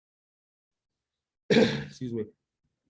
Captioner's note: coughs